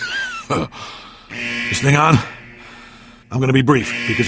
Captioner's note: throat clear